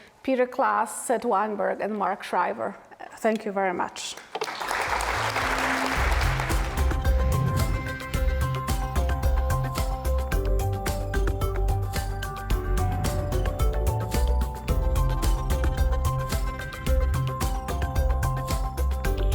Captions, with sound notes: Peter Claes, Seth Weinberg, and Mark Shriver. Thank you very much. (applause) (electronic riff)